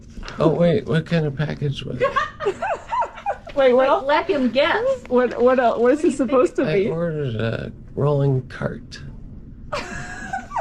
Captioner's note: laugter